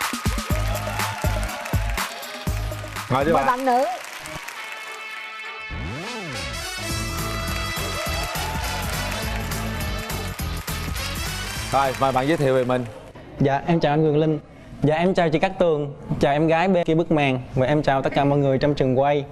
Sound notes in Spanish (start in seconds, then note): 0.0 aplausos; 4.9 música de bienvenida; 6.5 aplausos